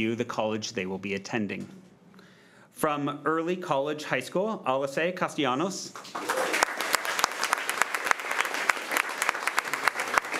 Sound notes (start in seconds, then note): 5.9 crowd clapping